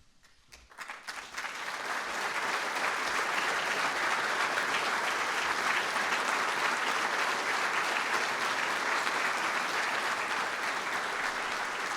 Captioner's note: applause